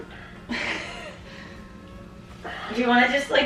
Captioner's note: laughing